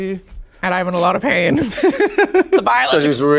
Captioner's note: Sasha laughing